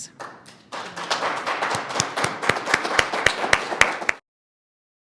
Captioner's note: audience applauds